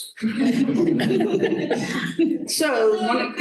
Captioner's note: laughter